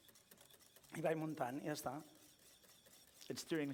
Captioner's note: non-english speech